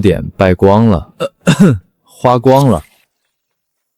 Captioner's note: cough